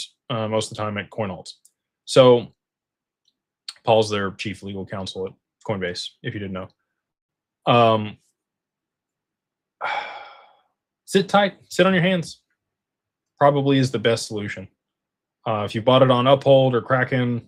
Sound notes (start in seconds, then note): 9.8 sighs